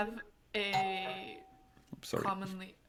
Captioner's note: doorbell dings